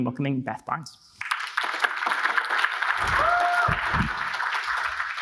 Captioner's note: audience applauds